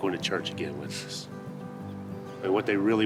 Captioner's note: Allen scoffs